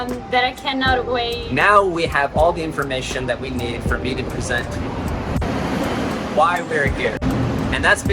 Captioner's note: truck drives